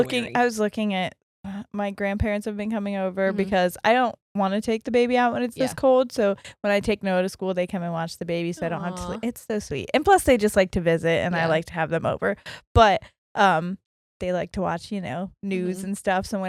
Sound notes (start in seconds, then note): 6.8 murmurs